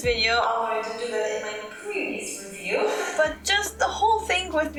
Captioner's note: chuckle